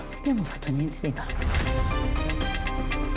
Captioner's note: speaking Italian